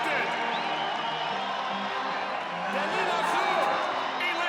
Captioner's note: audience cheering